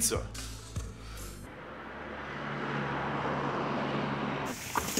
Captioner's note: traffic humming